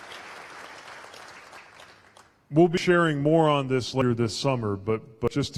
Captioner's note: applause